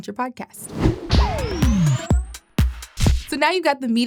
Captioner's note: transition whooshing; upbeat music